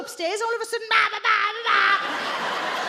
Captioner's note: shouts